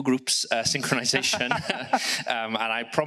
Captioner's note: laughs